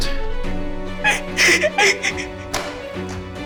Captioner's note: sobbing loudly